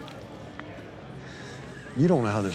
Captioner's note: sighs